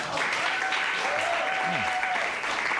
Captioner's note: cheers and applause